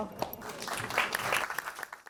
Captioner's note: audience applauding